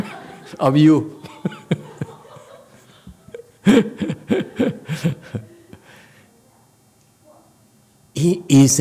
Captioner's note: laughs